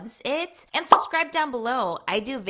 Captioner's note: bubble popping